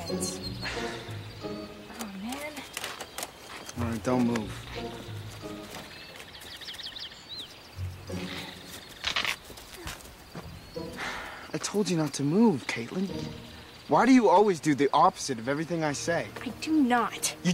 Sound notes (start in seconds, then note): 0.0 whimsical music; 0.6 Eric sighs; 5.4 whimsical music; 9.0 pants rip; 10.9 Eric sighs